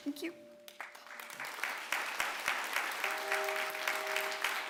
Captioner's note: clapping